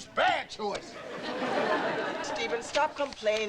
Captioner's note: audience laughing